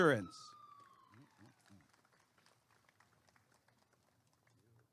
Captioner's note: applause and cheering